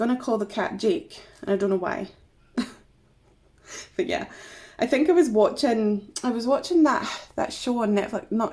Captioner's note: laughs